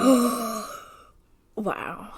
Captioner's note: gasp